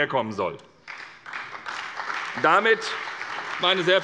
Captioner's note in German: Beifall bei der SPD und der FDP